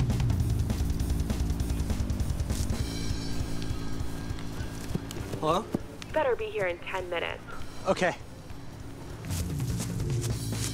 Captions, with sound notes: [phone ringing] Hello? 'Better be here in 10 minutes.' Okay. [leaves rustling...]